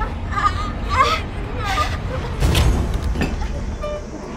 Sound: Morgan groaning

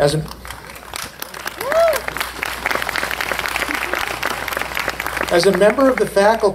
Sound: applause

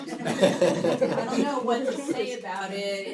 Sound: laugh

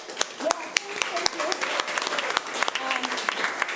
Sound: applause

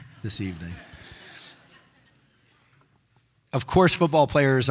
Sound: audience laughing

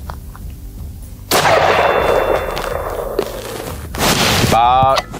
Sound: gun shot

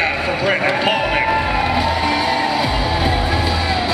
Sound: crowd cheering

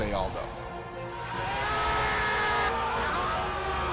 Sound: yelling; crowd screaming

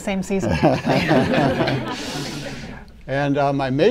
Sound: laughter

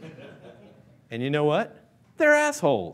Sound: laughing

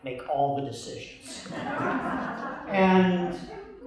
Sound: laughter

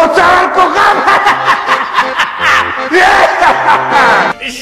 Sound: Israeli Rainbow Beard gives evil laugh

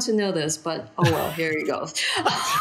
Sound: laughing

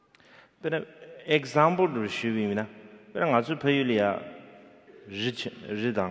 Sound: speaking in foreign language

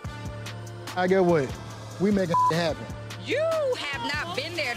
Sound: beep

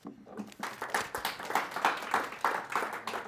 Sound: applause

